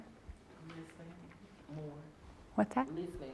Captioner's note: participant murmurs